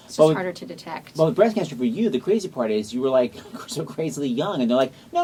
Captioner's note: laughs